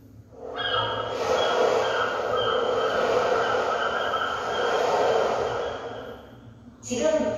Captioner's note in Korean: 갈매기, 파도 소리